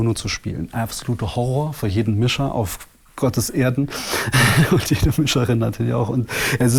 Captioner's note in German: lacht